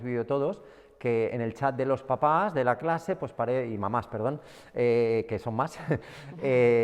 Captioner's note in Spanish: Risas